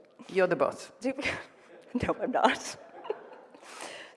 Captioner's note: laughs